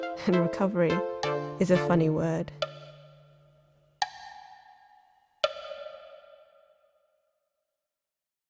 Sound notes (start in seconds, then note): 5.8 tick Tock abruptly stops